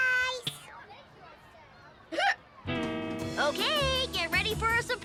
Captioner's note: boy hiccups